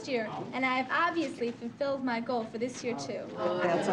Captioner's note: audience murmuring